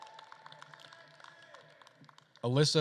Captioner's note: attendees applauding and cheering; speaks faintly